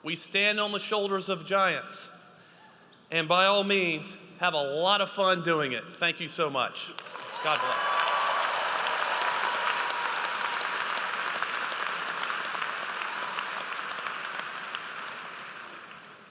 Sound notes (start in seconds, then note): 8.1 audience applauds